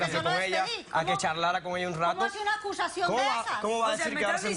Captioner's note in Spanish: Hablan al unísono